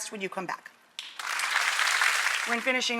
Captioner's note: audience applauds